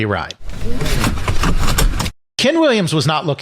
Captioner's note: SFX - Seatbent being put on and clicked